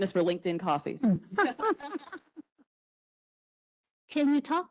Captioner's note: panelists laugh